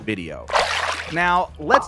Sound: water splashes

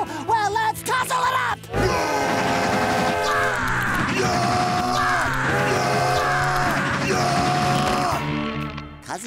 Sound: screaming

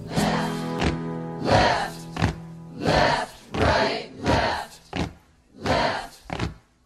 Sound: guitar strum; group Chanting

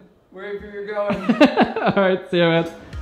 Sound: laughing

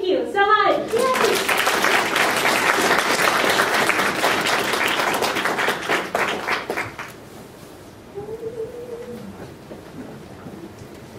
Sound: applause

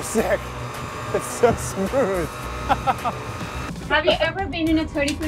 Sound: laughs

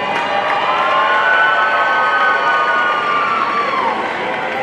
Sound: audience cheering

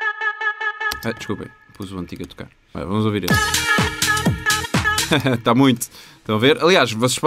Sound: laughter

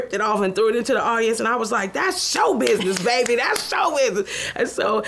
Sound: claps

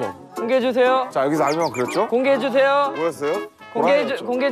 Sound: chattery

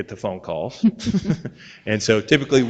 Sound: board members laughing

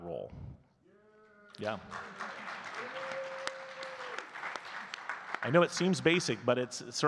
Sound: audience claps and cheers

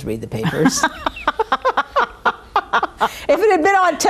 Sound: laughing

